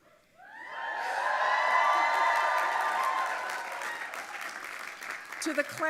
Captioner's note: audience applauding and cheering